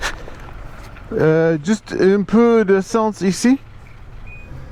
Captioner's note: French